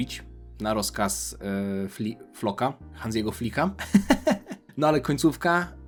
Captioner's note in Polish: śmiech